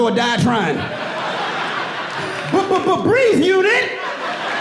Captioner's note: laughs